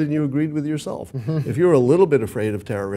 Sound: laugh

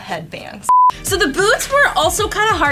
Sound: beeps

